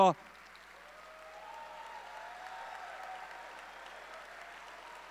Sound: audience cheering

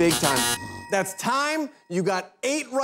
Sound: buzzer

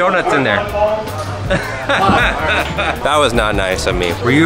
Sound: laughs

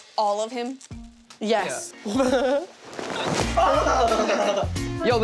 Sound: laughing

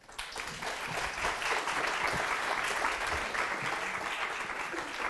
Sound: audience applauding

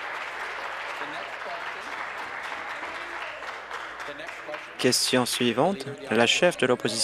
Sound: applause

